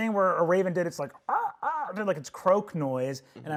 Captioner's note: caws